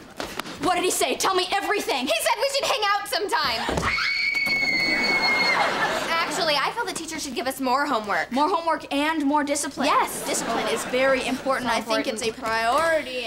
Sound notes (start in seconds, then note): 3.5 squealing